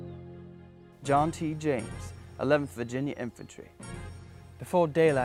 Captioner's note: voiceover